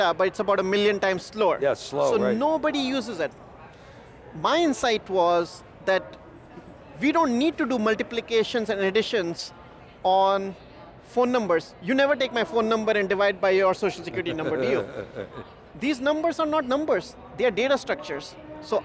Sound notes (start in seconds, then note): 13.9 laughing